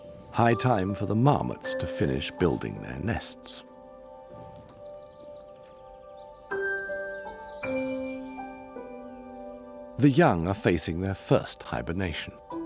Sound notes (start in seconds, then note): none